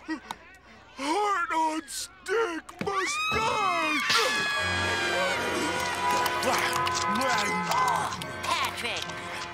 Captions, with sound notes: Heart on stick must die! [munching] Patrick!